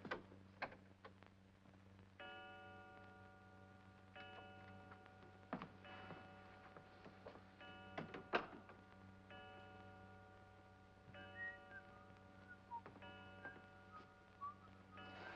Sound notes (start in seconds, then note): 2.2 clock chimes; 8.3 door closes; 11.1 clock chimes; 11.2 whistles